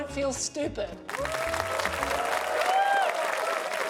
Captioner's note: applause